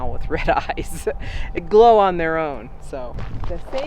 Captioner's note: laughs